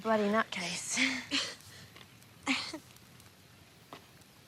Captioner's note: laughs